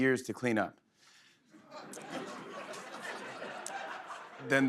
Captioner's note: laughter